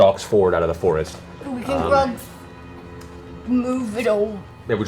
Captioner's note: Grog voice